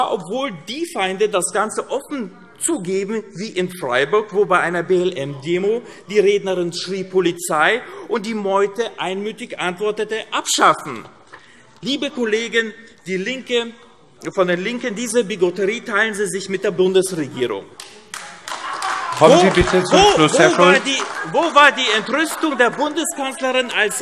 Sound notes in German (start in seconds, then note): 17.8 Beifall AfD